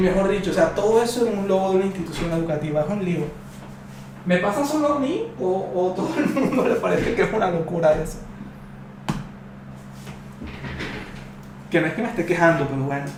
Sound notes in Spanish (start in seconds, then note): 6.0 risas